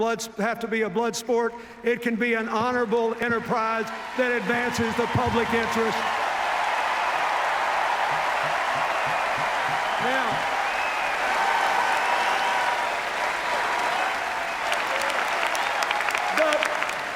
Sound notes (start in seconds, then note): 6.0 cheers, applause; 11.1 sustained cheers, applause